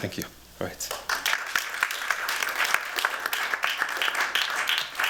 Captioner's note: applause